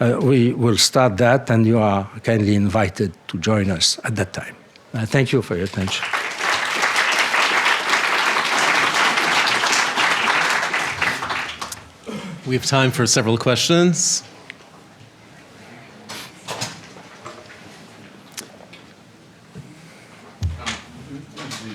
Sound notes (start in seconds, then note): 5.6 applause; 12.6 voiceover; 14.2 audience murmurs